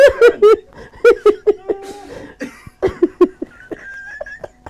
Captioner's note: people laughing